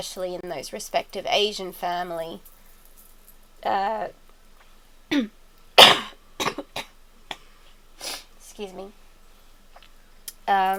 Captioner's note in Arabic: سعال مرة أخرى ما أقوله يجب أن يكون مهمًا أو بقعة على